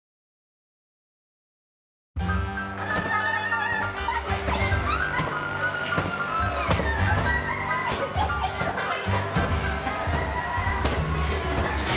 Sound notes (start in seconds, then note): 2.1 jazz music playing; 3.1 joyful screaming